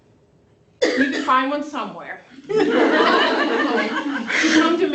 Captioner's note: laughter